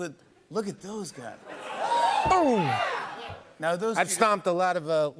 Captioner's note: crowd cheers